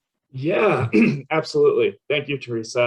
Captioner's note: clears throat